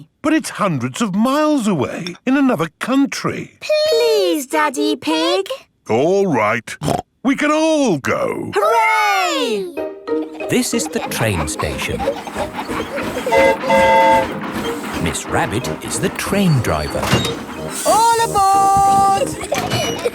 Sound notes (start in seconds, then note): 13.2 train whistle toots; 18.6 giggling